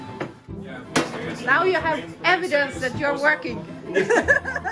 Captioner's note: laughter